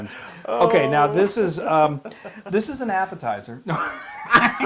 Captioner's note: laugh